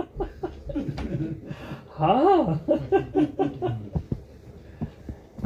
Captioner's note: laughing